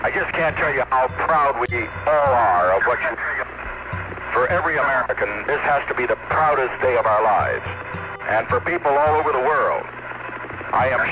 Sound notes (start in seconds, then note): 3.8 glitch